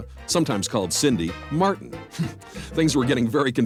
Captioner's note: chuckles